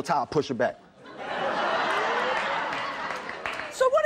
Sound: audience laughs

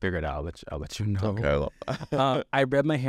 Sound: laughs

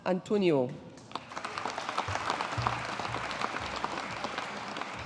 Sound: audience applauding

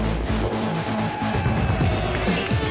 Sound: crowd cheering

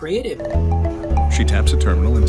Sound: payment sound

